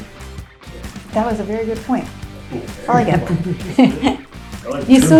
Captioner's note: laughing